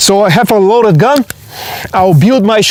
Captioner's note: hammer cocking